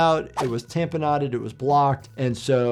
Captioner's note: audio whooshes